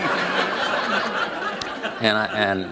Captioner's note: laughter